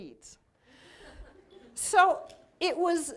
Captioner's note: laughter